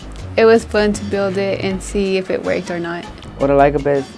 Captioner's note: laugh